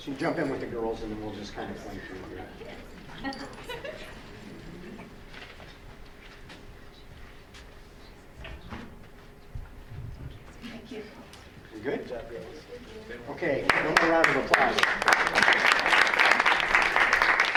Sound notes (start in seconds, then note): 13.4 crowd applauds